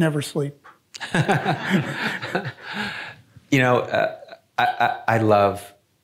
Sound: chuckles; audience laughing

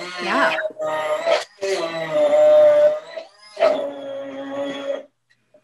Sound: blender roaring

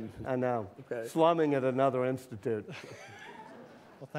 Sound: laughter

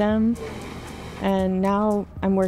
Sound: machine whirring

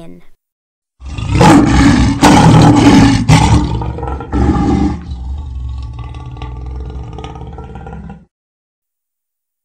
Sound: a lion roars

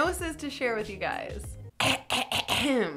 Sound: clears throat

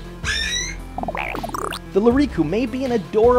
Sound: Akida CLICKS happily!; Lyriku gurgles!

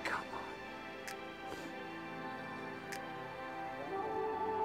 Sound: whispers

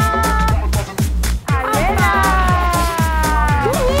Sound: cheering

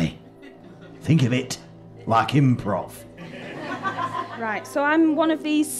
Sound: audience laughter

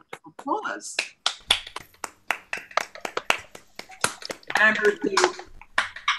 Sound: applause

